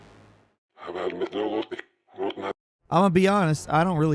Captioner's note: distorted voice growling